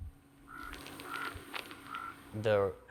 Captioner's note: crow cawing